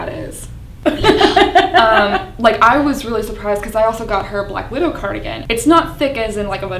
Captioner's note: laughs